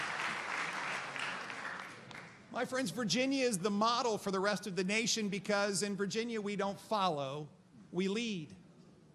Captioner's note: applause